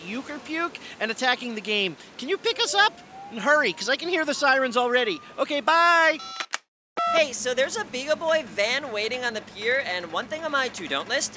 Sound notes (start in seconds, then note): 2.5 siren; 6.1 beeps